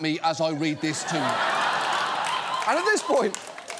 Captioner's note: audience laughs